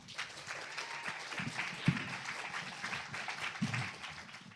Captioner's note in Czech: potlesk